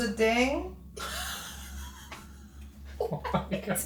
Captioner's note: investigators laugh